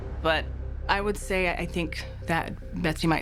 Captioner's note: none